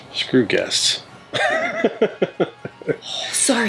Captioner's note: laughs